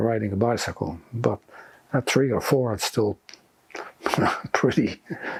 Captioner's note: laughing